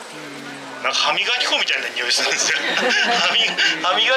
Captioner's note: laughs